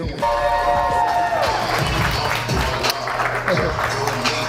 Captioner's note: audience applause